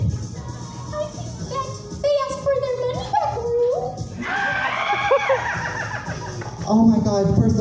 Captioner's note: audience in hysterics